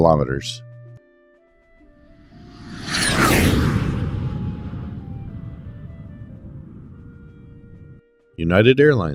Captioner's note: jet Whoosh